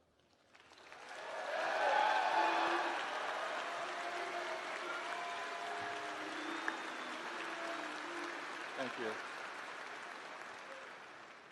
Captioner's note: applause